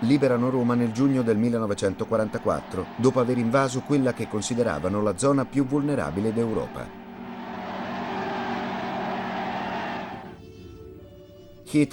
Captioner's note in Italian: Applauso